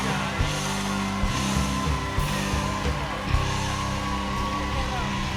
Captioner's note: cheers and applause